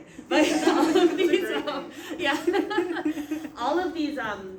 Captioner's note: laughing